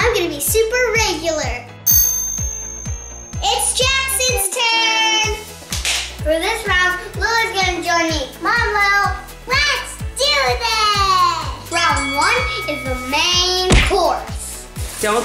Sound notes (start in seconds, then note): 1.8 chime noise; 5.8 clap